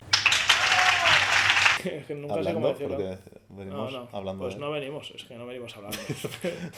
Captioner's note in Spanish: Applause